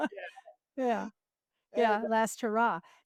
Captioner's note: laughs